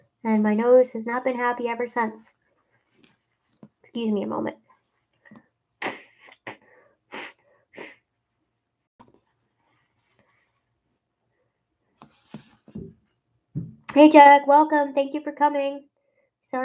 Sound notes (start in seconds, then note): 7.0 blowing nose